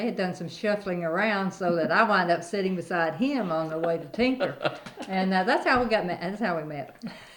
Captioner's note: laughs